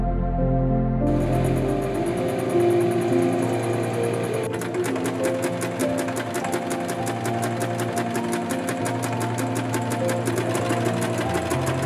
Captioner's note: intense sewing machine noises